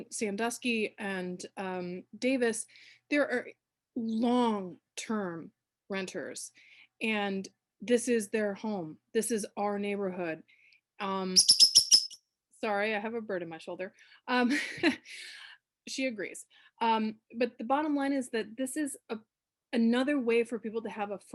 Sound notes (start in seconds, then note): 14.4 laughter